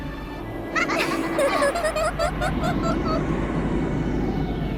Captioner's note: giggle, giggle, giggle, giggle, giggle